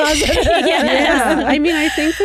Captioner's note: laughing